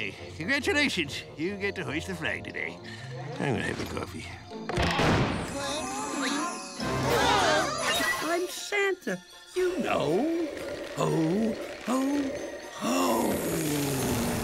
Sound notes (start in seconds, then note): 6.6 gasping